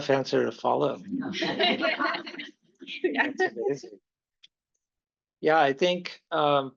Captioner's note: laughter